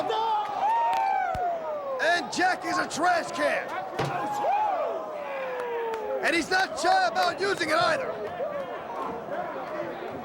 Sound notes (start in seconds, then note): 1.5 crowd cheering; 9.3 crowd chatter